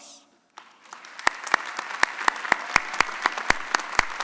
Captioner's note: audience applauding